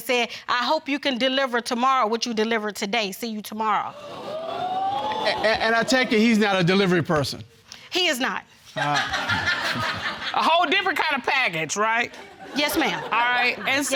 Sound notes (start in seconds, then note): 3.9 audience gasping; 8.8 woman laughing